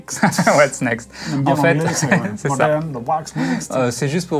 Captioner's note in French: rires